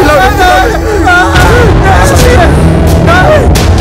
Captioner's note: Screaming